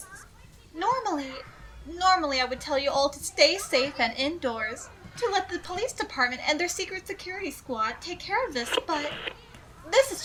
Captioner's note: radio Distortion/Momentary Channel Switching